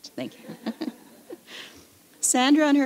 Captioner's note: laughter